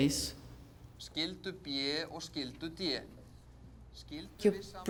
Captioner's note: man lecturing in Icelandic